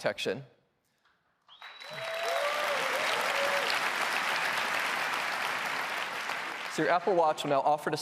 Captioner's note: applause